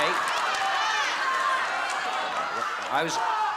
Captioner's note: audience shouting